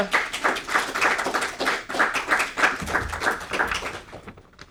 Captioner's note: audience applauding